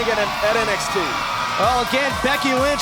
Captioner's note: crowd cheering